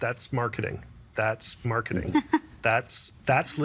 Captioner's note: chuckling